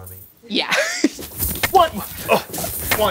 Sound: jingling

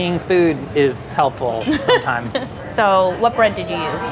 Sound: laughs

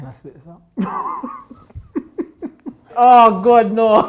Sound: laughing

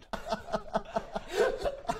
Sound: giggles

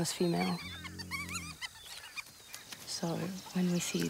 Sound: hyena cub whines

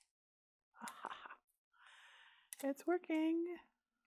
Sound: chuckles

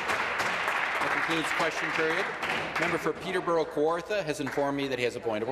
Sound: applause

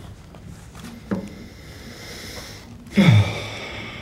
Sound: takes deep breath and exhales

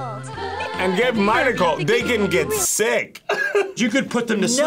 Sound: laughs

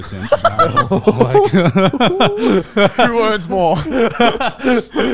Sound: all laughing

